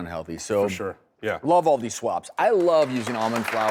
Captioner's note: audience clapping